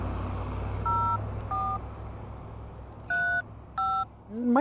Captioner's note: phone buttons beeping